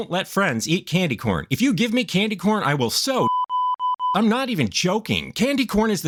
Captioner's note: beepity